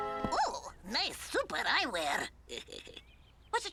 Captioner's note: Otto laughs